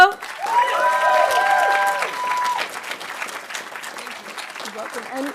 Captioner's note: audience cheering and applauding